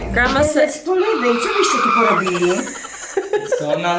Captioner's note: grandma speaking in Polish; brother speaking in Polish